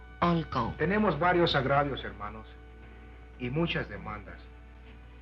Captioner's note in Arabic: تشارلي يتحدث الاسبانية